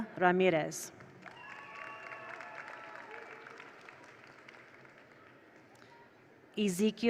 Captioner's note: attendees applaud; attendees cheer